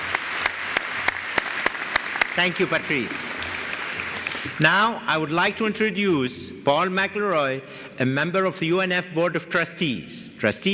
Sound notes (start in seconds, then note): 0.0 applause